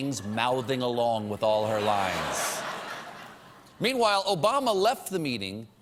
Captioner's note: laughter